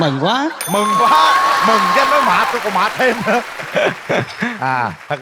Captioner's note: laugh